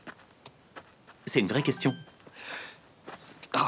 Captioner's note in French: téléphone sonne